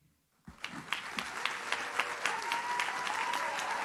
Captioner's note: audience claps